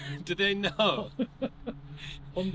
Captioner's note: laugh